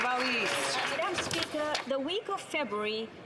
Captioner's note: some Applause